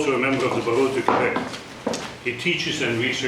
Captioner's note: speaking foreign language